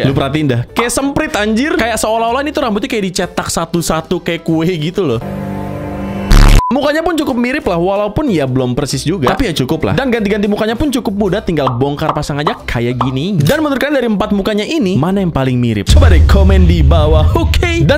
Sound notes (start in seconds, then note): 6.2 distorted